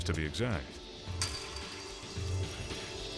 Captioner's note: metal gate clanking; tense music